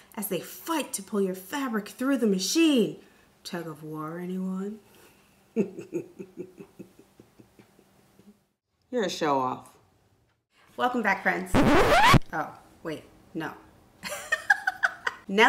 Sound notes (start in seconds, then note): 5.5 chuckles; 11.5 record scratch; 14.0 laughs